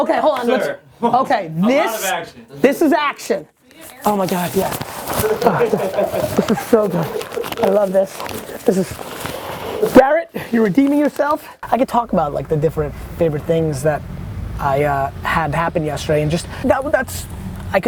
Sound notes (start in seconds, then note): 5.2 laughter